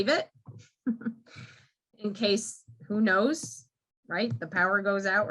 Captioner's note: chuckles